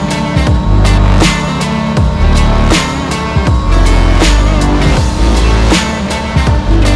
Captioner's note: machinery revving; upbeat music